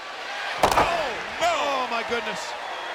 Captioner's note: body thudding